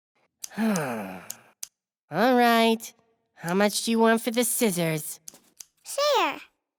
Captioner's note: sighs